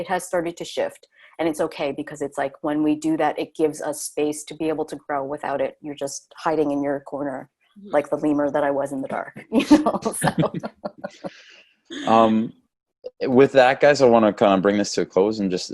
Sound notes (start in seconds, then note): 9.7 all laugh